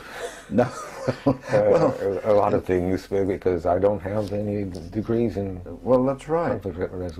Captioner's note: laugh